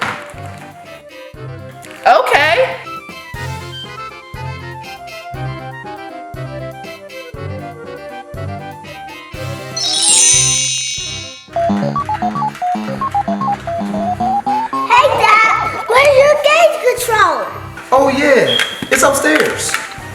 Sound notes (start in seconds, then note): 0.1 curious music; 9.7 magical ting; 11.6 cartoony blooping